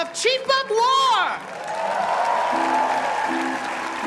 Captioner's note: cheers and applause